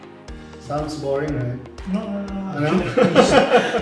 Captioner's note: laugh